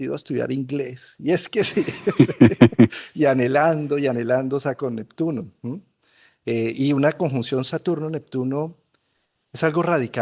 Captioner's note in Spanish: risas